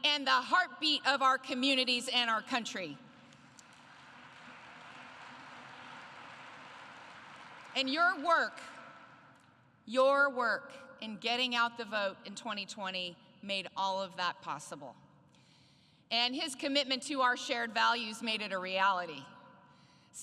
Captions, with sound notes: and the heartbeat in our country. (Applause.) And your work -- your work in getting out the vote in 2020 made that all possible. And his commitment to our shared values made that a possibility.